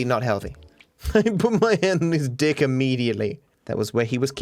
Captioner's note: laughing